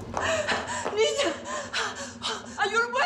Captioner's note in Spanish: sollozos